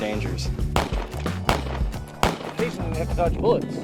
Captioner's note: gunshots